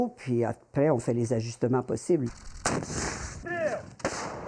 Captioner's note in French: tirs et cris